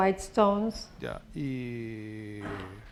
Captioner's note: speaking spanish